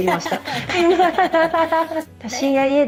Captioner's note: laughs